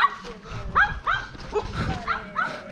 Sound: haha

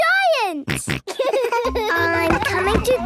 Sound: giggles, snorts

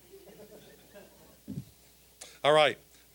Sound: audience chuckling

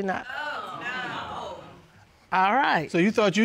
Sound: audience gasps

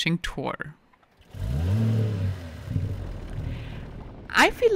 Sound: bike revving

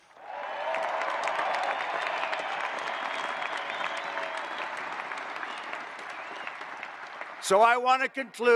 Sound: applause

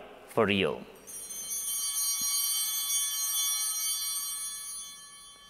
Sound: bell ringing

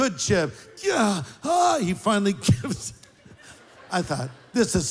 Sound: groans and moans

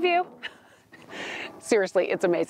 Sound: laughing

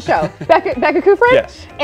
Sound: laughter

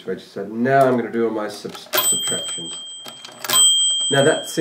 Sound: calculator dings

